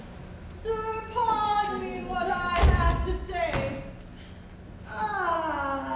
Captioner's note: groans